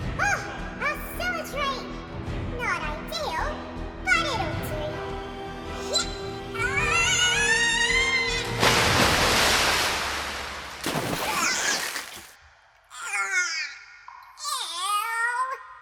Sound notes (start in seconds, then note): 6.8 scream